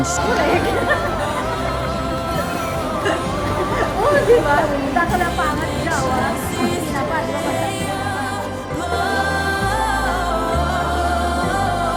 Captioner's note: chats and Laughter